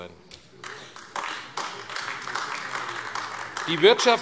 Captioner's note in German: Beifall AfD